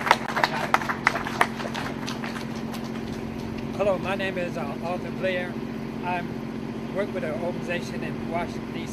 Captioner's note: applause